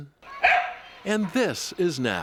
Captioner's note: dog barking